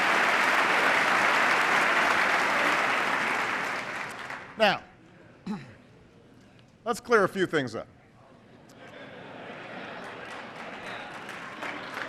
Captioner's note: laughter